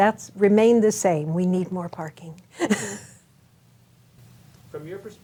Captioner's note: chuckles